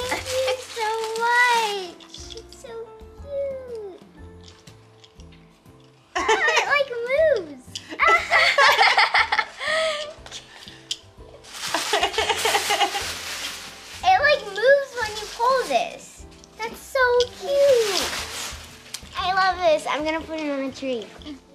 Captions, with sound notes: Thank you so much. It's so cute. It like moves. (laughing) It like moves when you pull this. That's so cute. I love this, I'm gonna put this on the tree.